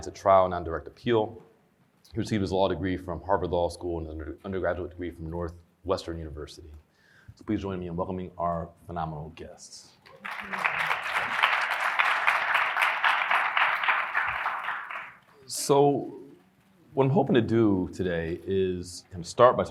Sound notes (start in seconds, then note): 10.1 audience applauding